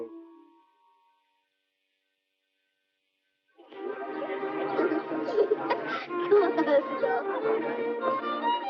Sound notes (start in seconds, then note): 3.6 light orchestral music; 5.2 all laughing